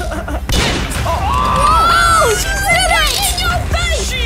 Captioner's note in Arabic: ضحك; نيران البنادق